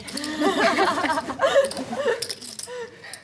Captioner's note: laughs